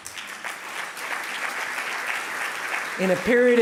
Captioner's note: audience applauding